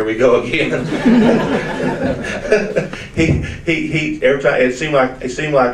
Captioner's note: audience laughs